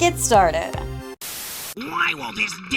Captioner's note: static